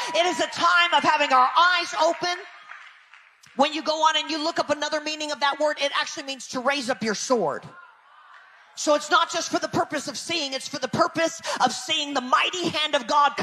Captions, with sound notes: It is a time of having our eyes open. When you go on and you look up another meaning of that word, it actually means to raise up your sword. (people cheering distantly) So, it's not just for the purpose of seeing, it's for the purpose of seeing the mighty hand of God